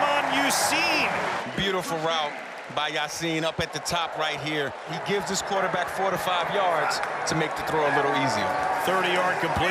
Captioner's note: cheering